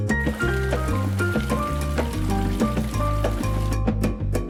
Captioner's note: water splashing; lighthearted upbeat music